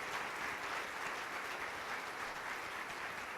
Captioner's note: applause